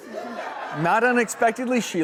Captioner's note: audience laughter